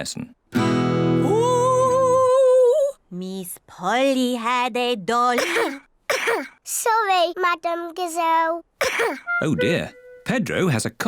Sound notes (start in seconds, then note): 0.5 strums guitar; 5.3 coughs; 8.8 coughs